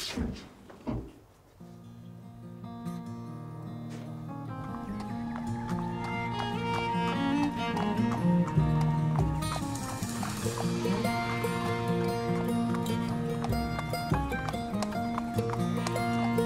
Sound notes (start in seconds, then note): 0.0 footsteps thudding; 4.7 horse hooves clopping; 4.7 somber Western music